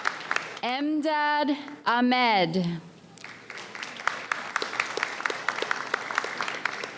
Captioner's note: audience applauds